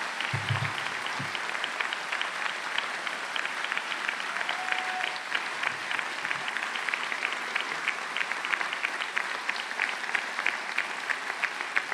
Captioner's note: cheers and Applause